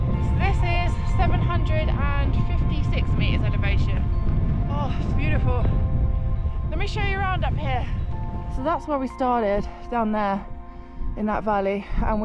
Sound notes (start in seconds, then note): none